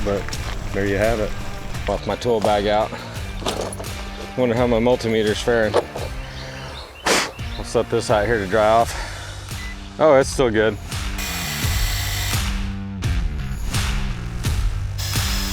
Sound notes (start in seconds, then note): 3.5 metals clanking; 3.5 upbeat music; 7.2 blows air; 9.5 beeps; 10.9 drilling; 11.5 upbeat music; 14.9 drilling; 15.3 upbeat music